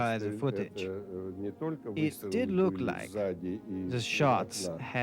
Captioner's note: speaks in foreign language